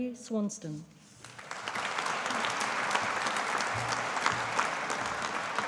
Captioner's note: audience applauding